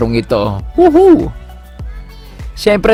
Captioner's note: woohoo